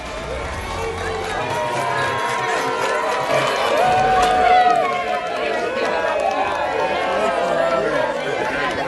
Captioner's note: cheering